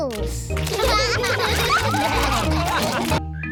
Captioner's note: all laugh